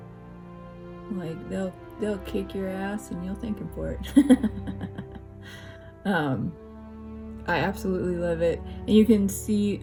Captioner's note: laugh